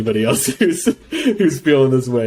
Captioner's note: laughs